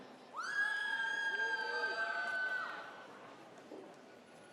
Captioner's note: audience cheers